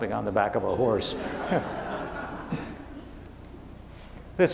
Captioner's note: laughing